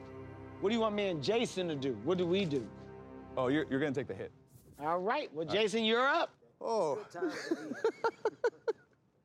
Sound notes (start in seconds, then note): 7.2 laughs